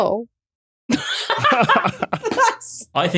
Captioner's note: laugh